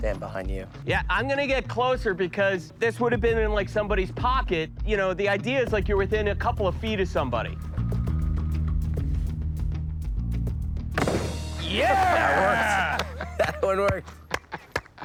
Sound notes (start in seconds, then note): 10.9 gunshot